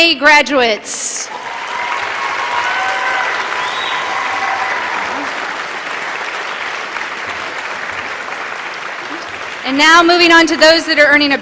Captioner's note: applause